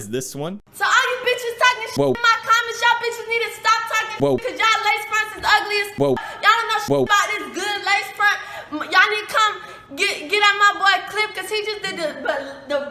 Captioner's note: LOTS OF NON-SENSE SWEARING AND "WOaH"-ing in the back